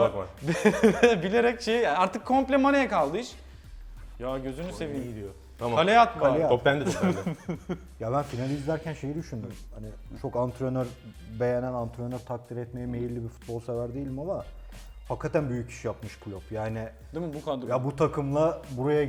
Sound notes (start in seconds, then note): 0.4 laughs; 6.7 laughs